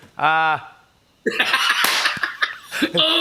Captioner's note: laughs